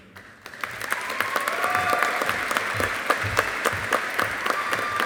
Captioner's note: audience applauding